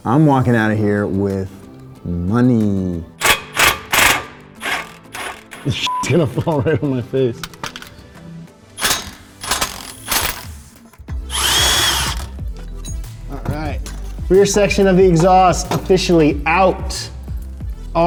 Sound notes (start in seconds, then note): 3.1 wrench rasping; 5.8 beep; 8.8 wrench rasping; 11.1 upbeat music